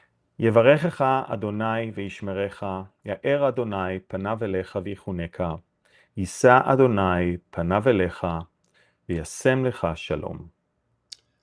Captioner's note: Hebrew